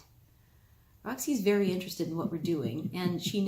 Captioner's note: cameraman giggles